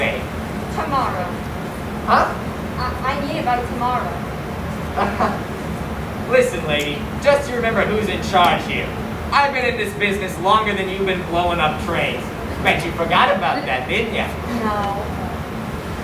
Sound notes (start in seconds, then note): 4.9 nervous laughter